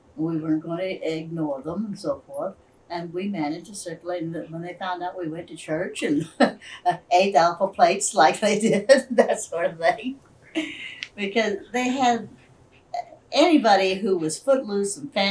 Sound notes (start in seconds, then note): 10.5 laughs